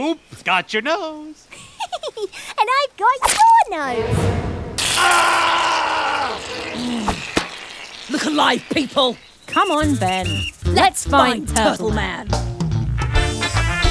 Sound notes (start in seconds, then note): 1.5 Kate, giggling; 4.8 Mercanary screaming in pain